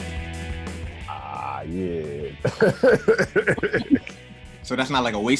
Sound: laughter

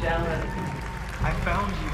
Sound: applause

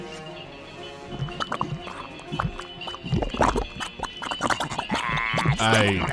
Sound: loud bubbling

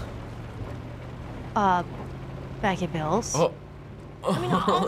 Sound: laughs

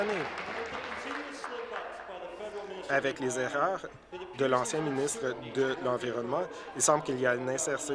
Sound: applause

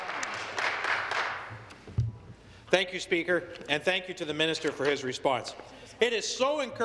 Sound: applause

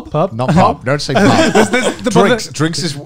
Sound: men laughing

